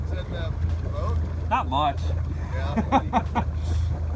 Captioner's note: laughing